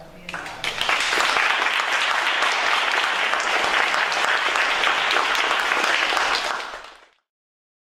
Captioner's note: applause